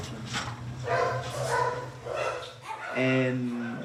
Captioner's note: dogs barking